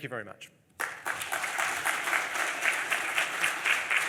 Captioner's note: applause